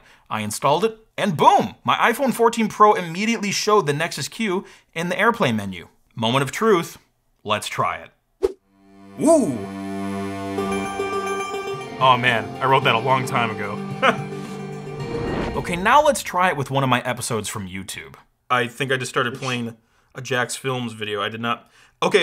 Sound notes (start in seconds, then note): 9.1 light electronic music; 14.0 laughs